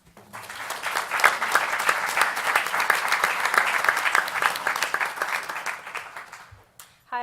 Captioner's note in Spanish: Aplausos